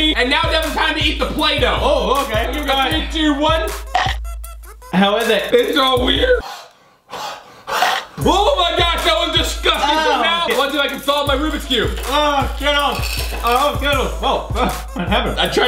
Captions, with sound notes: And now, Devon, time to eat the Play-Doh. - Oh, okay! - Three, two, one. (chomp) - How is it? - It's so weird! (panting) (chomp) Oh my gosh, that was disgusting! - Ahhh! - Now, wonder if I can solve my Rubix cube. - Ahh, Skittles, oh Skittles, oh? In heaven.